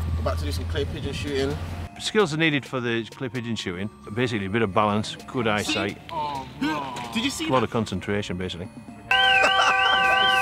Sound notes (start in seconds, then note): 9.0 car alarm; 9.2 laughter